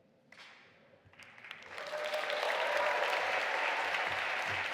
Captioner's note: audience applauding